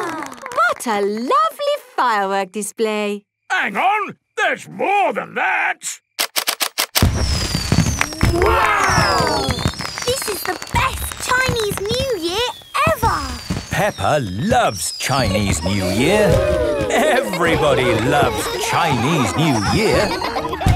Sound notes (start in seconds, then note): 15.2 exclamations; 19.3 laughter